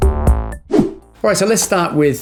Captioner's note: upbeat music; transition whooshing